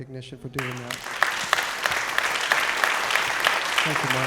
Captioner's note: applause